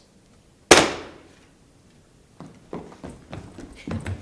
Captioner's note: books slamming